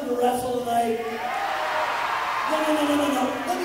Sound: audience cheering

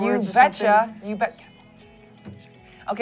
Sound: whispering

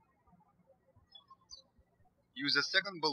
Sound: birds chirping

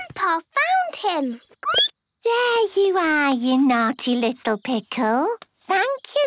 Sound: squeaking

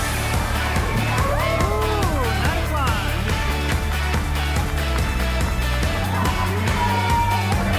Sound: crowd applauding

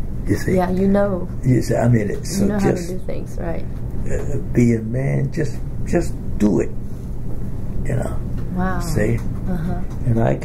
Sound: laughs

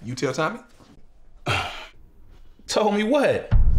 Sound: Varnel huffs

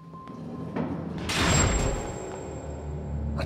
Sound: cell door slams

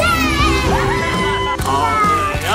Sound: mom cheering

